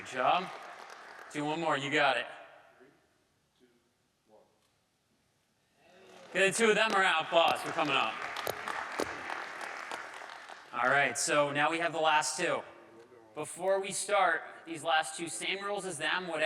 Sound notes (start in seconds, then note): 8.3 audience applauding